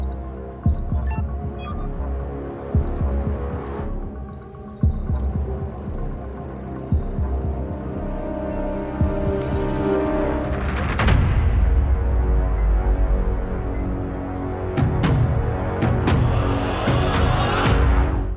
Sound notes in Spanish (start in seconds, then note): 0.6 pitido; 6.3 campanas